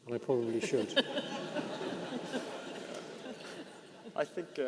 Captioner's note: audience laughing